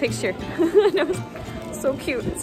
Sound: laugh

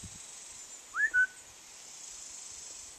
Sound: whistle

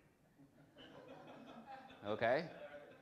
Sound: audience laughs

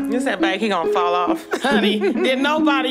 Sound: hahaha

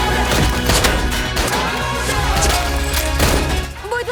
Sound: gunshot

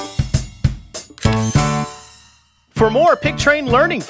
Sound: SFX: Camera Shutter

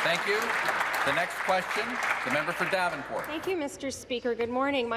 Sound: applause

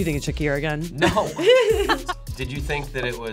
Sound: both laughing

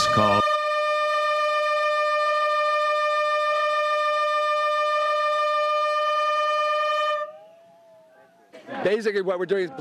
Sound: bullhorns

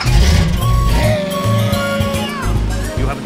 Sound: happy texan noises

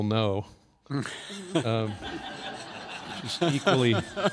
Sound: laughter

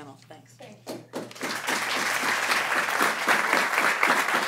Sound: applause

